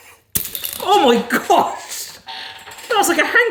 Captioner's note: marble rattles